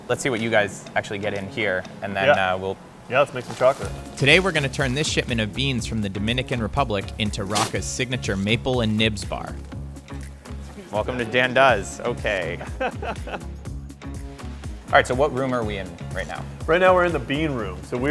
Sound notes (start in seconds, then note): 12.4 chuckling